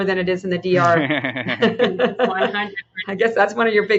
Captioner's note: panelists laughing